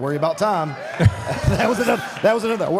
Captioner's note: audience applauds